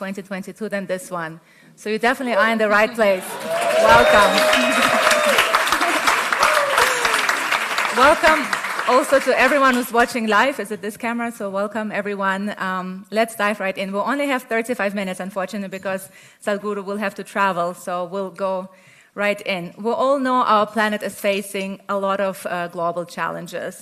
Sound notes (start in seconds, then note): 5.6 laughs; 6.0 cheering/Applause